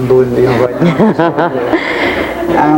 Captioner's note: laughing